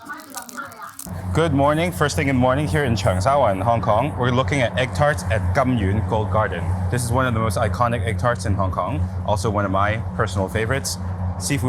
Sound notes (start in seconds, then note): 0.1 person speaks in foreign language; 5.4 speaks in foreign language